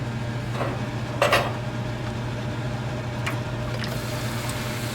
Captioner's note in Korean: ※환풍기소리 주의※